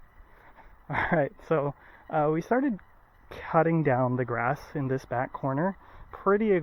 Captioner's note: laughs